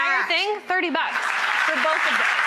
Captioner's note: audience applauds